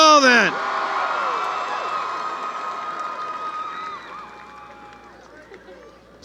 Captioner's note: cheering